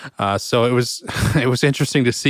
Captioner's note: laughs